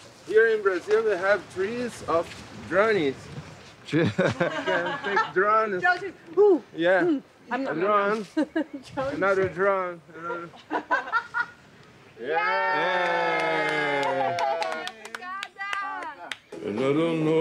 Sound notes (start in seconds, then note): 10.3 both laughing; 12.2 all cheering and clapping